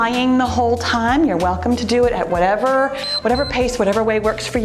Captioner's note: timer beeps